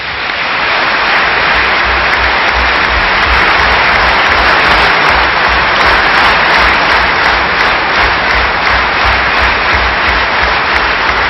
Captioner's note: applause